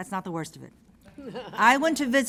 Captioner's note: laughter